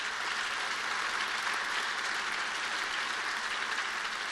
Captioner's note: applause